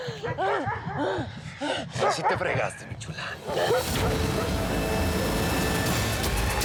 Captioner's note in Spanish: ladridos